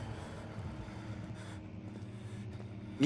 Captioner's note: eerie horror ambience; Daniel breathing heavily